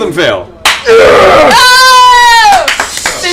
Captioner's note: cheering